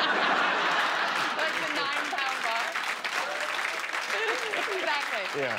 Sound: laughter

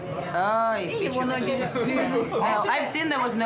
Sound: speaking Russian

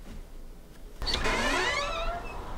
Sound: door opens

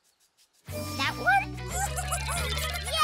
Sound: giggling

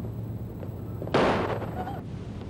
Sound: final gunshot

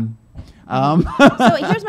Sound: laughing

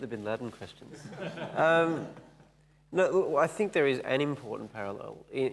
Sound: laughing

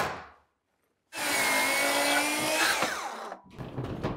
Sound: saw buzzing

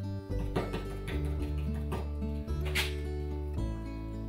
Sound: gentle guitar music continues; brush tapping

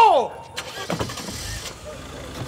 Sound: engine starts

